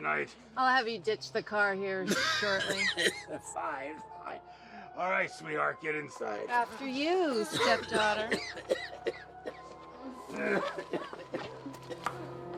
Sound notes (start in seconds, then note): 2.0 coughs; 7.4 Pappy coughing